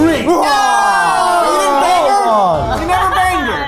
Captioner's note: group screaming